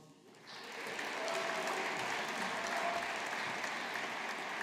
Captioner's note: audience applauding